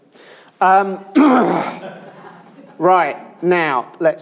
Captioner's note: laughter